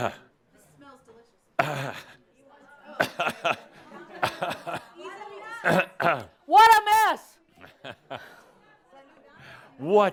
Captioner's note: shouting